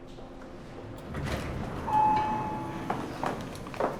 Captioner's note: elevator dings